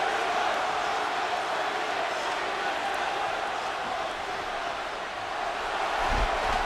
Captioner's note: applause